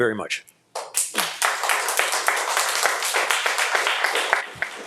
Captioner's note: audience applauding